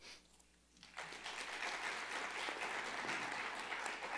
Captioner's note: crowd clapping